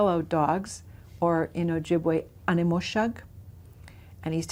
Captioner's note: speaks Ojibwe